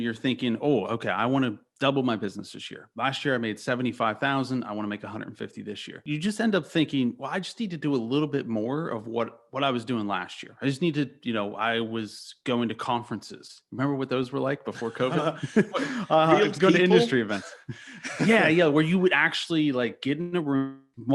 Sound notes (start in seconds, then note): 14.6 laughing; 17.7 chuckles